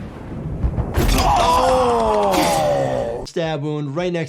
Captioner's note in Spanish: el personaje grita